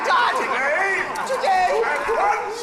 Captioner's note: ghosts yell again